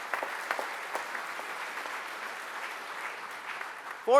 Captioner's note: applause